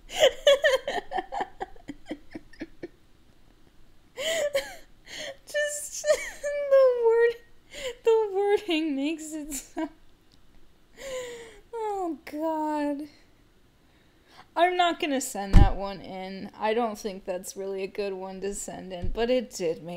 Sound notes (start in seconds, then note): 0.1 more laughing; 5.1 laugh; 10.7 laughing